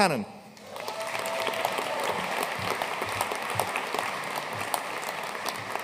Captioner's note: audience cheering and applauding